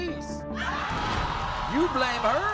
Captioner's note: audience roars